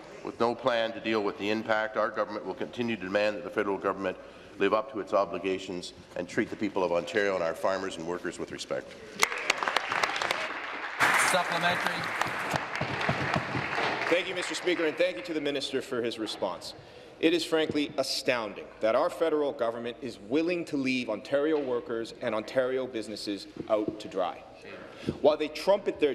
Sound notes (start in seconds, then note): 13.2 applause